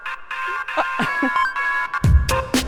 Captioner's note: خنده